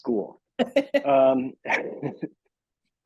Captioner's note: laughing